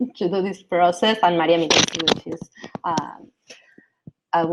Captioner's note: mic grumbles